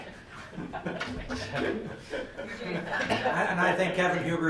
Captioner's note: laughing